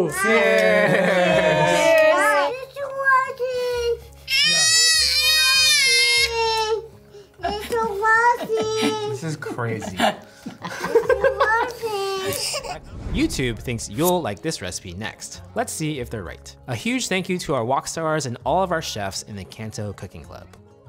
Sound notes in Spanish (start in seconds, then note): 4.2 En idioma bebé